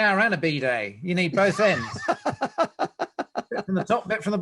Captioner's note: laughs